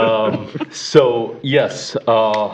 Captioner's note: laughter